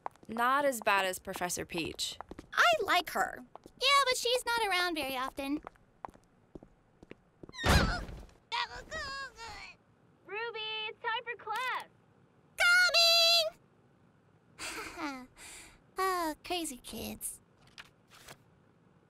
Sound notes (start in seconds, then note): 8.6 Ruby yelps and struggles to free herself; 14.6 Ruby chuckles